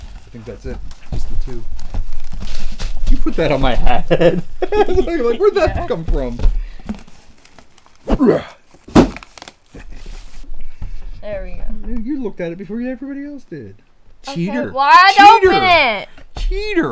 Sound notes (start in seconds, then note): 3.9 laughs; 8.8 thud